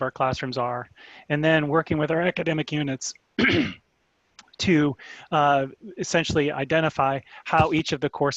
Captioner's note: cough